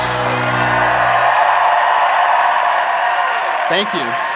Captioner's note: applause